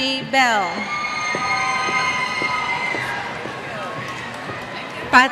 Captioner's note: cheers